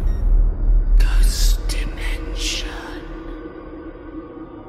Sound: whispering

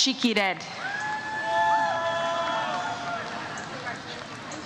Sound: audience cheers

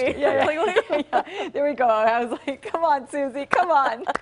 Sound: laughter

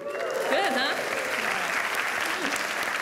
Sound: applause; cheering

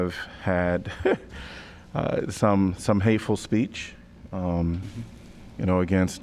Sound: laughter

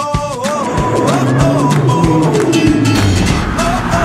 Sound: vroom!

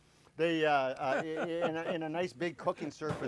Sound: laughing

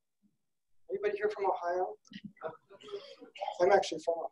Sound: laughing

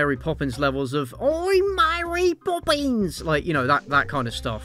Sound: bad cockney accent

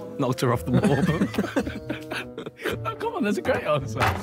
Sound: men laughing

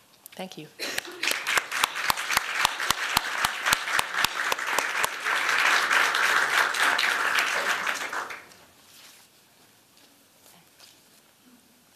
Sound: applause

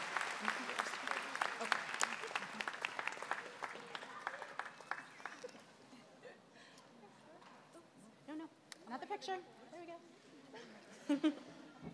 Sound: applause

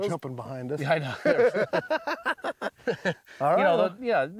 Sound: laughter

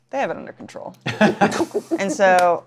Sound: laughter

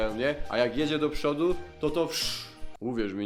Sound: pshh

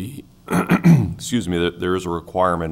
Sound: clears throat

